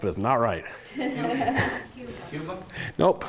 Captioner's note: laughing